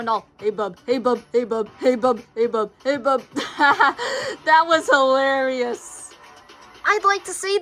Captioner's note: chuckles